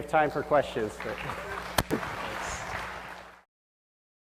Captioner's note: applause